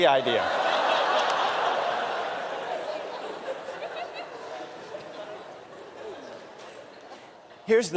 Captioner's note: laughter